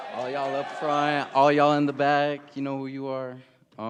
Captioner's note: cheering and applause